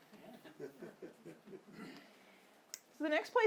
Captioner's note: audience laughing